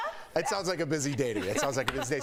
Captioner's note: laughter